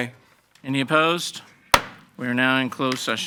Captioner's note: gavel banging